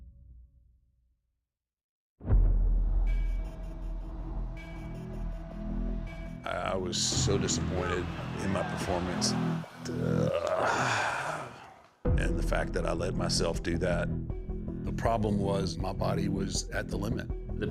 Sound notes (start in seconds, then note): 2.6 intense music; 9.9 Undertaker grunting